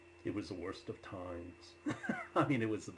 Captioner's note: laughs